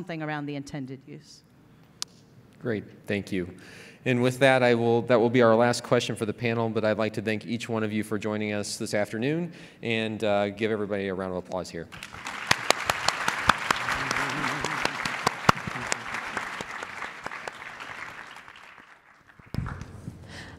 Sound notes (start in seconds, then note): 11.9 clapping